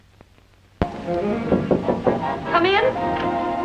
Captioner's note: knocks on door